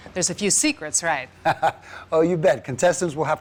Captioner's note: laughs